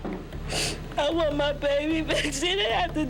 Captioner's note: crying